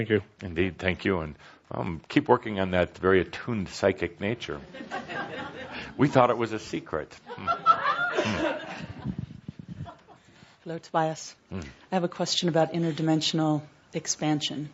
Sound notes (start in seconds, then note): 7.2 laughter